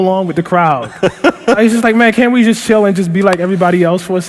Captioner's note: laughter